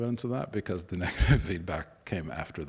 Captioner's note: chuckles